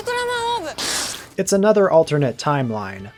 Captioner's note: spit take